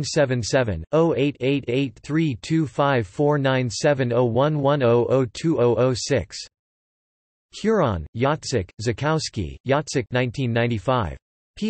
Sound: in Polish

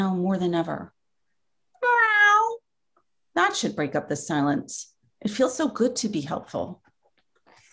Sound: meow

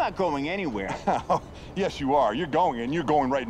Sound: laughs

